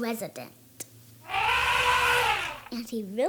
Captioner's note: elephant Call